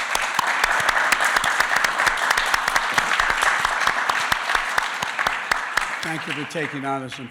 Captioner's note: applause